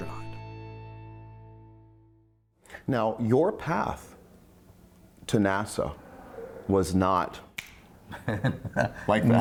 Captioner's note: snaps